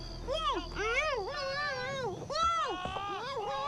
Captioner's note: Zeke mumbling